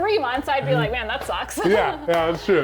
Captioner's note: laughs